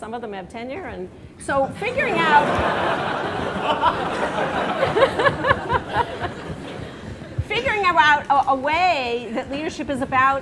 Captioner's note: laughter